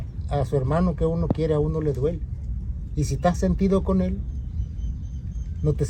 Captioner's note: speaking in foreign language